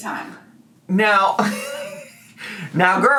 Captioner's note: laughs